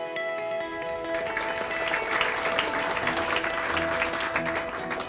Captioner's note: applause